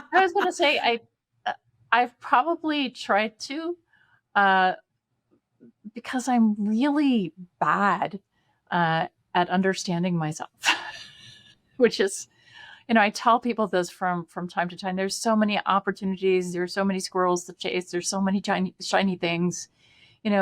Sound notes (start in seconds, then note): 9.9 laughs